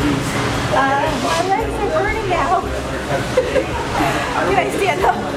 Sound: laughs

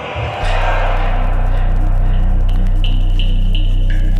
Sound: Static

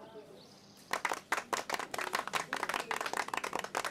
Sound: clapping

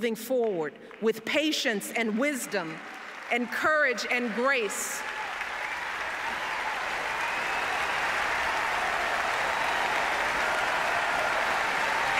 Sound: applause

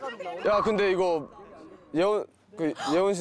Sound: gasps

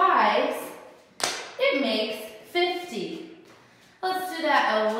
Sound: stamps foot

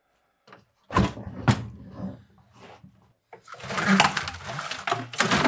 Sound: parts thumping and clattering

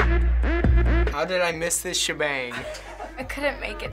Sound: laughs

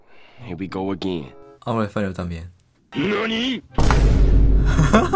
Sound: Spanish

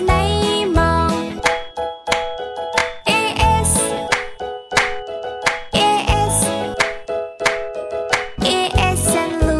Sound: clap

